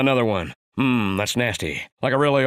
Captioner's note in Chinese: 模仿貓王口音